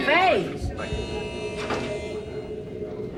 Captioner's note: door buzzes